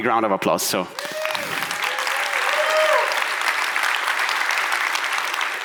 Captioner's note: audience applauds